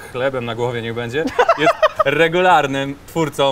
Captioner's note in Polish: śmiech